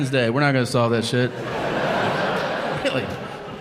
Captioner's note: audience laughing